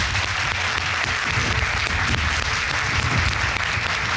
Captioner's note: audience applauding